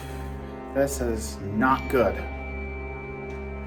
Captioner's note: sighs